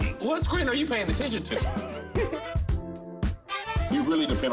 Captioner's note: giggles